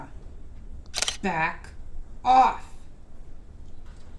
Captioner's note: shutter snaps